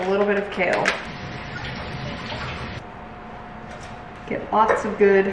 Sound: water gurgling

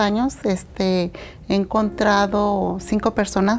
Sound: speaking in Spanish

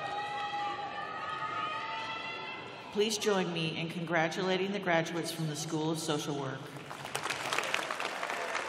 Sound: applause

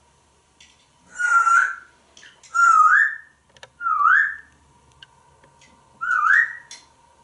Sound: whistling

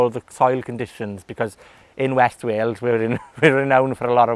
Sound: chuckling

